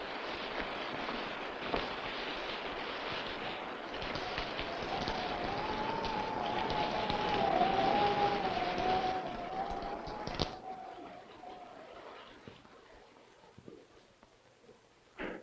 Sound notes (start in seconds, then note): 4.9 rain pattering; 4.9 wind howling